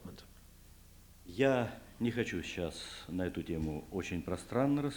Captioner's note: non-english speech